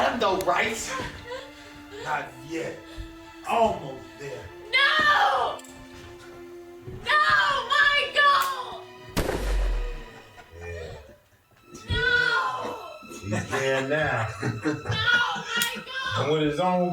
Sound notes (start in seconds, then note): 9.2 bang!; 10.1 laughter